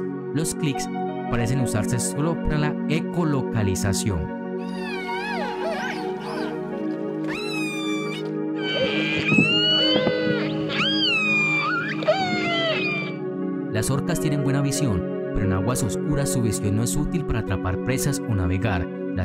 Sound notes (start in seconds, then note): 4.4 sound of killer whales